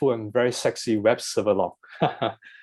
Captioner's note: laughs